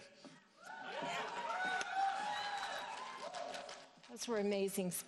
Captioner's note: audience cheering